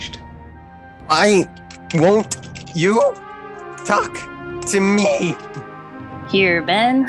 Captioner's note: button mashing like there is no tomorrow